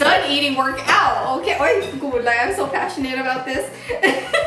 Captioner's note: foreign language